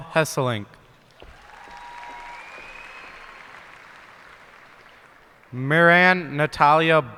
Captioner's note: cheers and applause